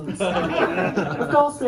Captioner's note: laughter